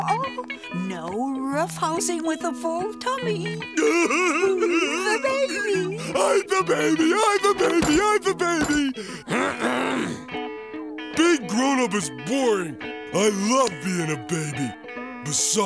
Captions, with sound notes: We are supposed to be adults! Oh, oh, no roughhousing with a full tummy. [laughing] Who's the baby? I'm the baby, I'm the baby, I'm the baby! [clearing throat] Being grown up is boring.